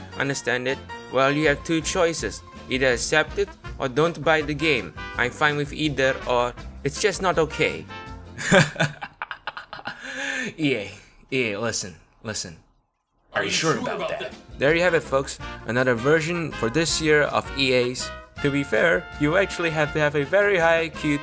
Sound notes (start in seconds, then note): 8.4 laughs